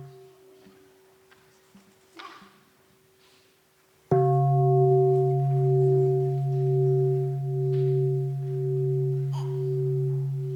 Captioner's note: sound of the bell